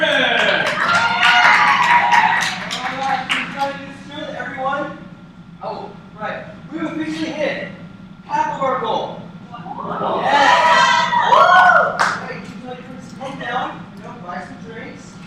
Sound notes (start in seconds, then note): 0.0 cheers; 9.5 amazed murmurs and cheers